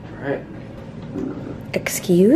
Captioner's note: dog belches